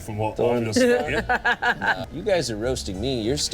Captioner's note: Odie laughs